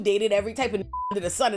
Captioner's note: beep